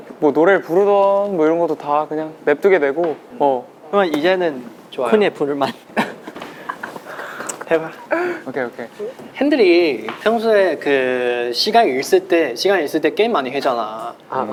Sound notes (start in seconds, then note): 5.6 laughing